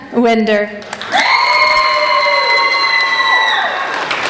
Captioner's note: applauding